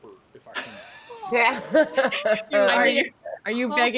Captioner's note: people laughing